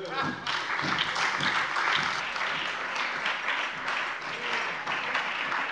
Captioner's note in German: Lebhafter Beifall bei der FDP, der SPD und der LINKEN